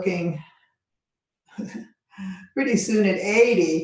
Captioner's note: laughing